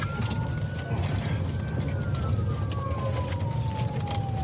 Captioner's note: siren wailing